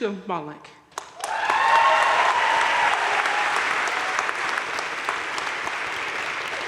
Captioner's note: audience cheering and applauding